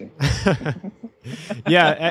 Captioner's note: laughter